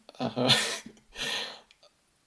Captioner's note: chuckles